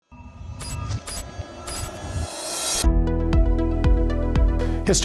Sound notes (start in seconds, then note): 0.5 beeping; 2.4 light upbeat music